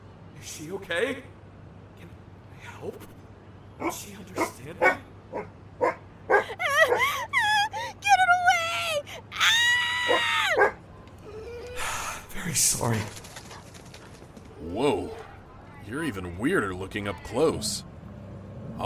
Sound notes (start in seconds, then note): 6.2 dog barking; 11.2 dog whimpers; 11.3 sigh